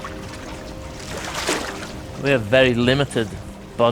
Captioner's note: water splashing